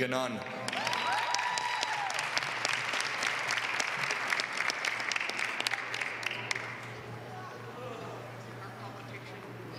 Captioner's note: applause